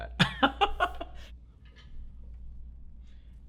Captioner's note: laughs